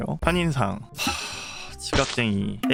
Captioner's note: sigh